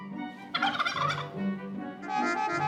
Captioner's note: turkey gobbling; traffic honking